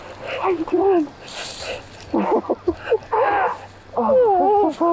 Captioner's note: laughs